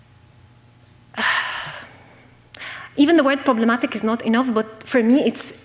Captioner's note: sighs